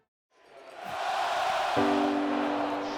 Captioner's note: cheering